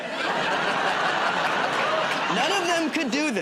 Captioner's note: laughter